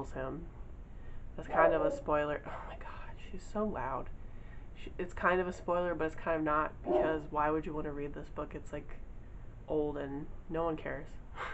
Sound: dog starts barking

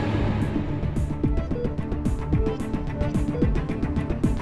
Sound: machine beeping

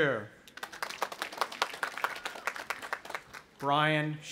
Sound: audience applauding

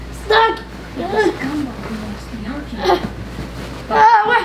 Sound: grunts

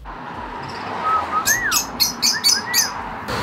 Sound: chirping of birds

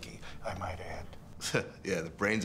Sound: chuckles

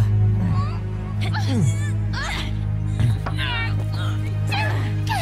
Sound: grunting

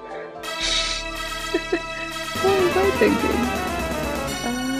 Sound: laughs

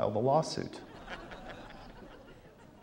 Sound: laughter

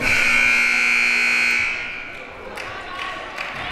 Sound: siren buzzing

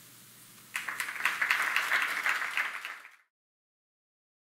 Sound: audience applauds

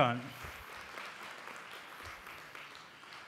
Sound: applause

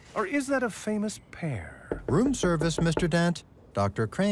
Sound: knock on door

